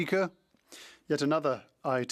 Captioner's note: speaking French